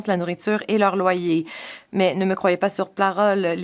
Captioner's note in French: voix de l'interprète